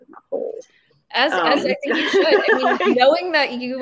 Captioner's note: laughing